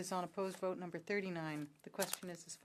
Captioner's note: speaking French